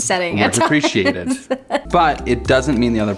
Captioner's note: giggles